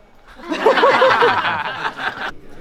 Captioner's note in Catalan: les participants riuen